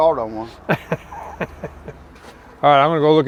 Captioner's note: laughing